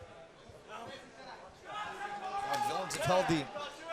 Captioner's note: crowd chatter